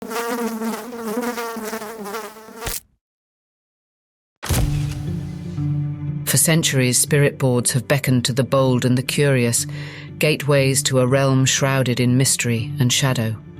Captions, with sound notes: (fly buzzing) (fly splatting) (dramatic creepy music) For centuries, spirit boards have beckoned to the bold and the curious, gateways to a realm shrouded in mystery and shadow.